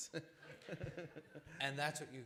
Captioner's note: laughter